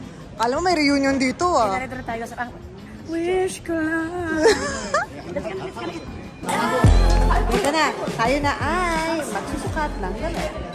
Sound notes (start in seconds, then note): 4.3 laughs